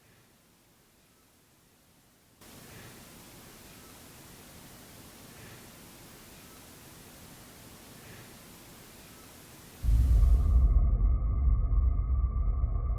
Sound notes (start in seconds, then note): 2.7 static; 9.8 ominous music